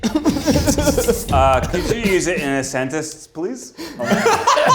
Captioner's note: laughs; slurring; group laughs